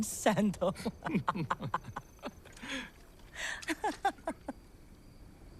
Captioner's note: laughing; laughs